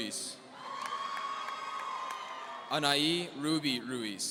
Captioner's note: audience cheering